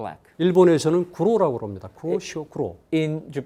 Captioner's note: speaking in Korean